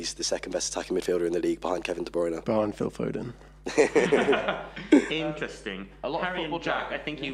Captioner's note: laughing